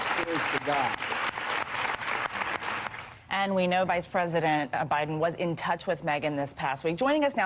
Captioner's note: applause